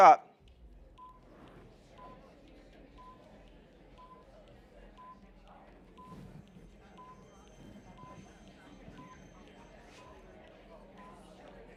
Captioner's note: background Discussion and Beeping Timer